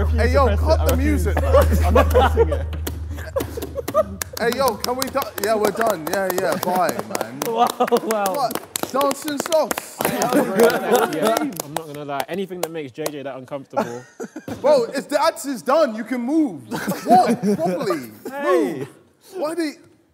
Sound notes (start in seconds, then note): 6.5 clapping